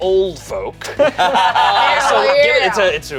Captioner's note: group laughs